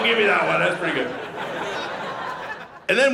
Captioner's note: audience laughing